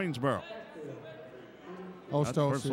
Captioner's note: yelling